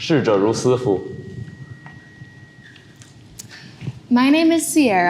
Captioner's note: speaks foreign language